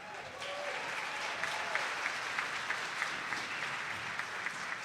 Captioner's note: graduands clapping